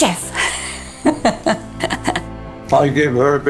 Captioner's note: laughing